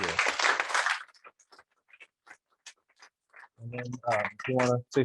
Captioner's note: applause